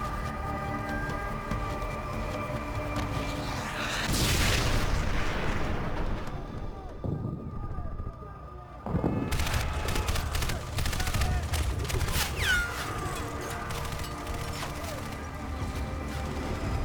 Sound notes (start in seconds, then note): 0.5 gunfire; 12.7 thunder; 12.7 gunfire; 12.7 screams; 13.1 gunfire